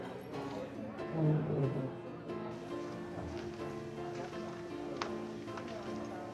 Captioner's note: background people chattering; melodic piano music